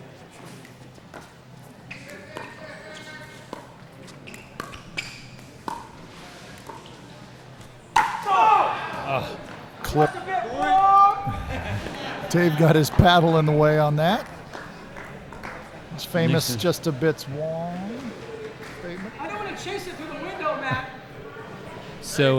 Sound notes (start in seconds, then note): 8.1 yelling; 10.8 yelling; 11.2 laughing